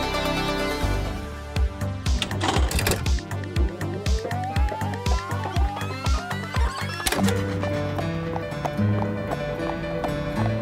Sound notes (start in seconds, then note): 2.1 tape fast forwarding; 7.2 piano music